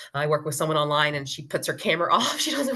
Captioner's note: laughs